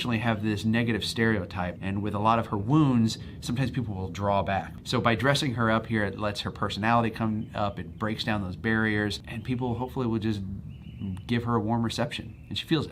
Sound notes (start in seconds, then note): none